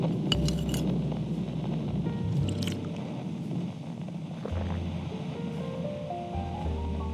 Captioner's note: they begin eating the soup fx